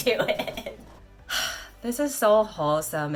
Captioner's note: 𝘥𝘦𝘫𝘦𝘤𝘵𝘦𝘥 𝘴𝘪𝘨𝘩